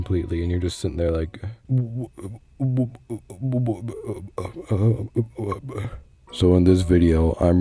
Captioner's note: stammering like a scaredy poo